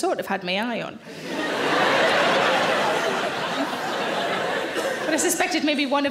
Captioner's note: audience laughing